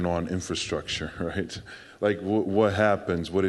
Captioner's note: none